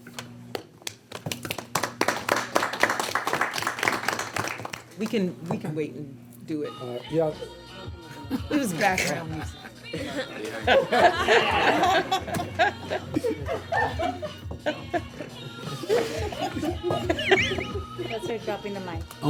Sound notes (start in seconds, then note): 0.9 applause; 10.5 laughing